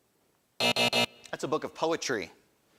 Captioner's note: alarm buzzes